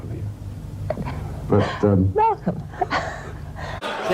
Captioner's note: chuckles